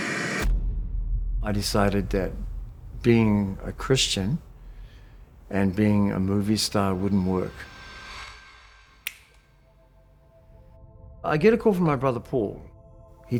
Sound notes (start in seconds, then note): 0.0 static sound; 9.0 click